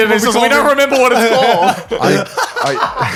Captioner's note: chuckles; laughing